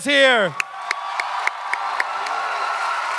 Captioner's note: audience clapping and cheering